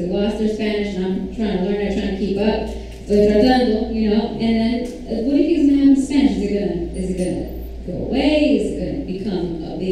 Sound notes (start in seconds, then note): 3.2 foreign language